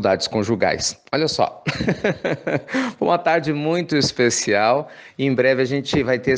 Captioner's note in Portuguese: risos